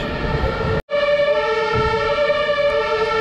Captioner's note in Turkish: ambulans sireni